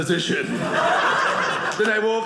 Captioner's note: audience laughing